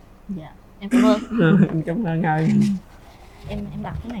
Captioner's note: laughter